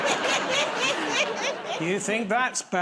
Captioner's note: laughter